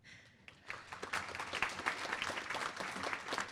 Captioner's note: applause